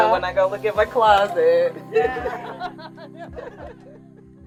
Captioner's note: laughter